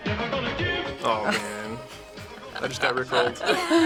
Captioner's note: chuckles